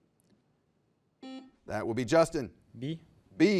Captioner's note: buzzer beeps